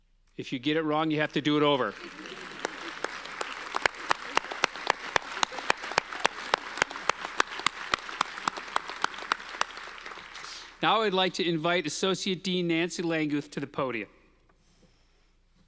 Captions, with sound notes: If you get it wrong, you have to do it over. (audience applauding) Now I'd like to invite Associate Dean Nancy Langguth to the podium.